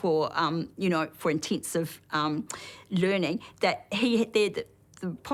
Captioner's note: stammers